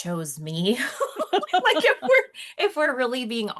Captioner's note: chuckles